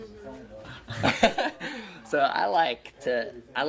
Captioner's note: laughter